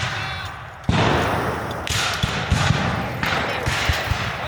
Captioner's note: guns fire